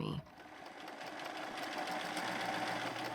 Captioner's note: sewing machine whirring